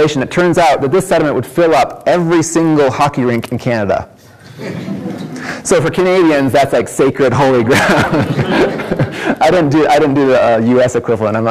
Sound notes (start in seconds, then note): 4.4 audience laughs; 7.6 laughs